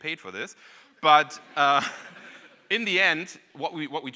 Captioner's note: audience laughing